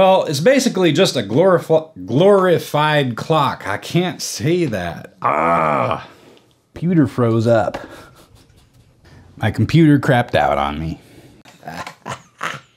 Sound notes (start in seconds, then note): 11.5 crazy laugh